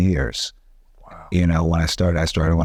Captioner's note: whispering